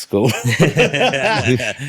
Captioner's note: laughing